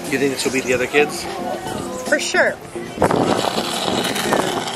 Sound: none

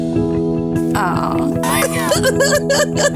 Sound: laughter

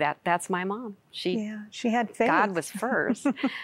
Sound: giggling

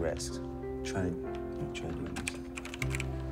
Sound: keyboard clicking

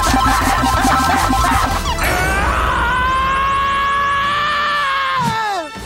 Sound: screaming

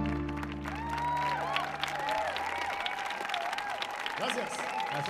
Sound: audience applauding

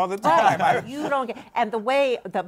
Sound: laughter

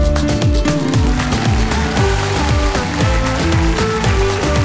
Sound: audience applauding

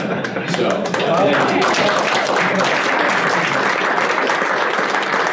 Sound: laughter; applause

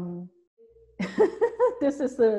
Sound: laughs

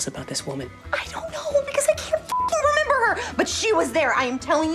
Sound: beeps

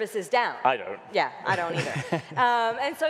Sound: laughing

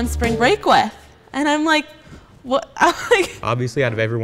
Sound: laughing

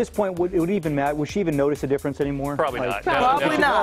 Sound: laughter

